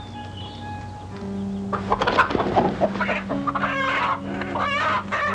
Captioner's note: chickens clucking